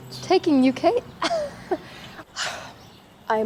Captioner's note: chuckles